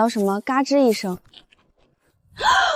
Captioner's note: creeeeeak